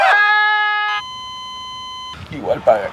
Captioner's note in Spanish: Beep